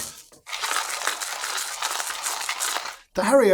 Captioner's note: coffee grinding